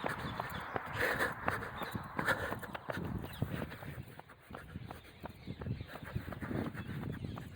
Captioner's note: heavily breathing